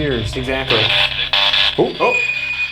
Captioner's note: spirit Box crackles